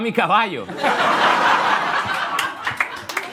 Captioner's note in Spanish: Risas